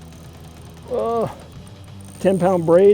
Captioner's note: groaning